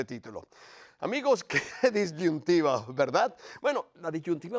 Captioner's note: laugh